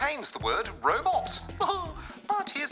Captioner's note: chuckles